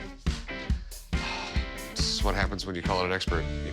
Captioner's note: sighs